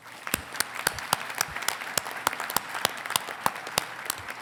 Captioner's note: congregation clapping